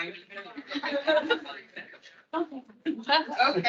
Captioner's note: attendees laughing